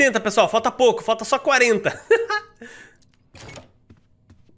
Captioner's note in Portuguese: risos